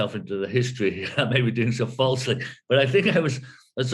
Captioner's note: laughs